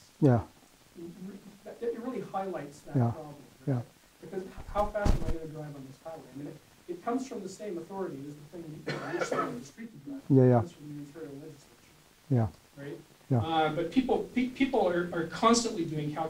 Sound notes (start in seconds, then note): 8.8 coughing